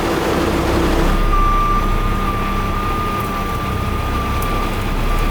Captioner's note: truck humming; truck whining